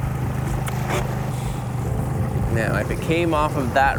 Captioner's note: engine chugging; water sloshing